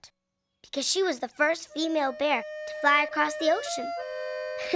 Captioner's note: school bell ringing